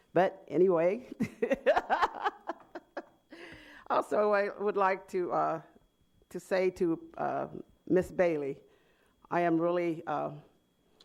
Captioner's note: laughter